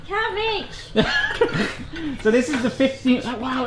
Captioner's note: laughs